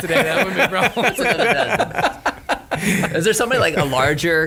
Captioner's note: laughing loudly